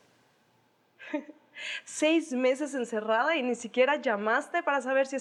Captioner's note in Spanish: Risas